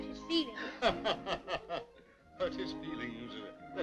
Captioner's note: laughing